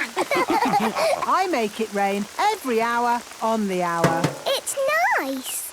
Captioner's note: all laughing; taps